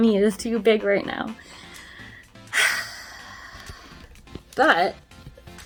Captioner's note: sighs